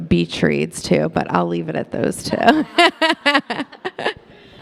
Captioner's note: laughs